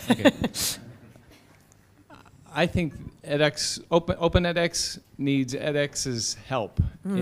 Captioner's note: laugh